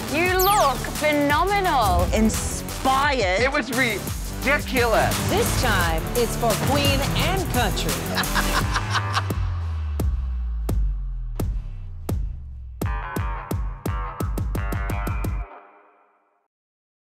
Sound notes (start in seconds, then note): 8.1 RuPaul laughs; 8.6 intense beat